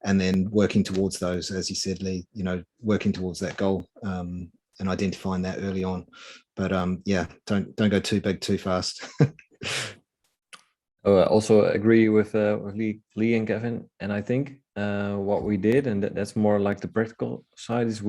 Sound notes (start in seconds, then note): 8.9 chuckling